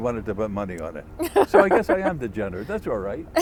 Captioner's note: laughter